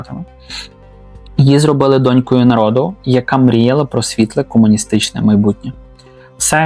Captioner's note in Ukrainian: сопіння